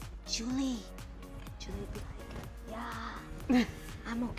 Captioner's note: laughing